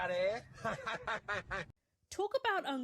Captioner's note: obnoxious laughter